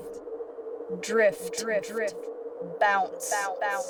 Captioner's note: echoes